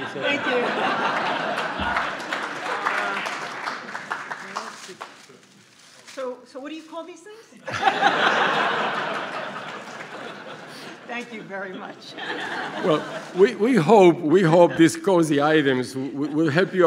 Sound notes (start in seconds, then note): 0.8 applause; 7.6 laughter